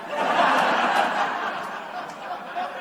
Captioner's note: laughter